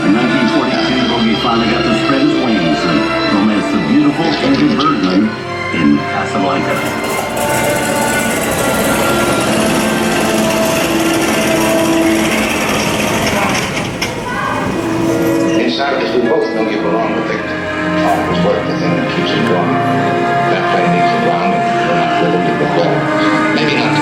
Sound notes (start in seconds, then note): 7.3 voice of Humphrey Bogart; 9.3 airplane sounds; 12.6 voice of Humphrey Bogart